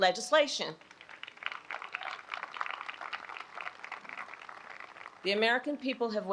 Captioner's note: applause